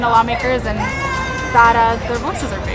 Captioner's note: students Shouting in Distance